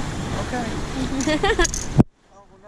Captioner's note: laughing